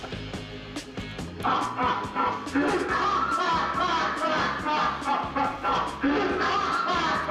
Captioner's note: Joker cackle